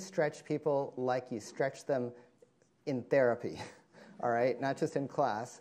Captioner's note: chuckling